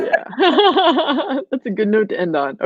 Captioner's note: laughs